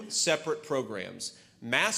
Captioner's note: HABLA EN INGLéS